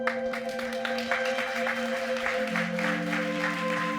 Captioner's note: audience applauds